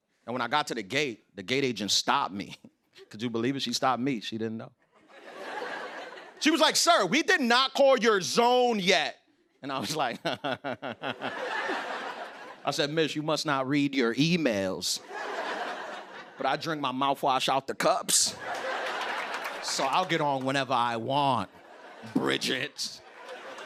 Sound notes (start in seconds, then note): 4.8 laughter; 9.8 laughs